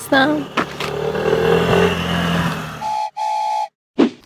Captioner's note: roar of an engine